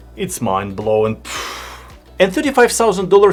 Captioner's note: air whooshing